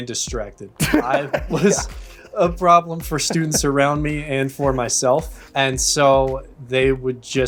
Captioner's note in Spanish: risas